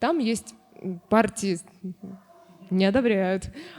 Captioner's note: barking